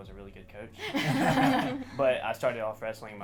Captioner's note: all laugh